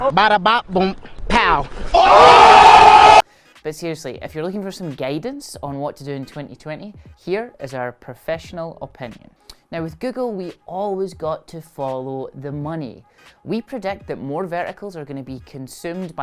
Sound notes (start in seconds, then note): 1.9 crowd cheers